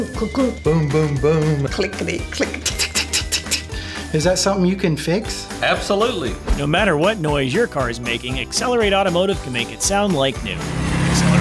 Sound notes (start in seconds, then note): 2.5 tisking